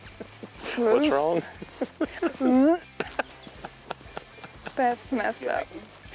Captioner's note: laughing; retching